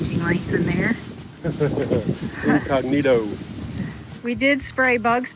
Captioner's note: laughs